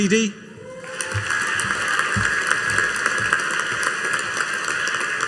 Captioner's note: audience applauding